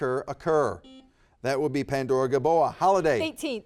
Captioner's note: buzzer beeps